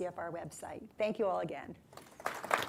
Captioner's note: applause